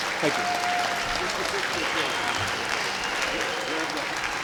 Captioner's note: clapping